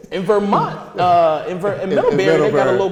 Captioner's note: laughter